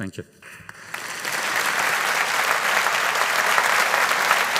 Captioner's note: audience applauding